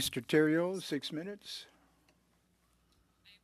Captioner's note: speaking French